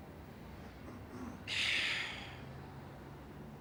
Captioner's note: sighs